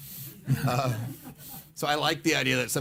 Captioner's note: laughing